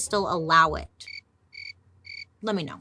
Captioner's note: insects chirping